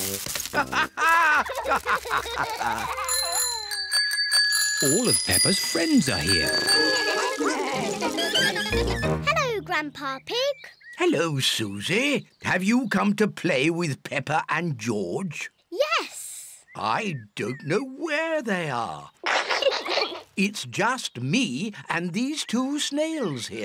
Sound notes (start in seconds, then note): 0.0 laughs; 0.5 all laugh; 2.8 bells ring; 5.9 all chatter; 19.2 peppa pig and george laughing